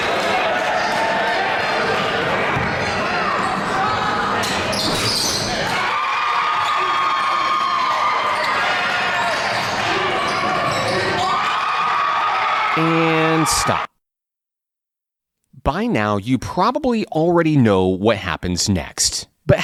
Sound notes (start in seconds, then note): 6.2 crowd screaming